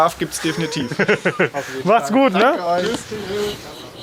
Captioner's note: lacht